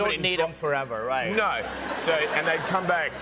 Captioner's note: laughter